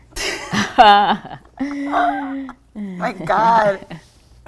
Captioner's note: laughing